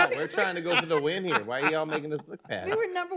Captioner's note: laughter